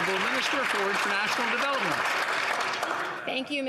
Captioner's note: some Applause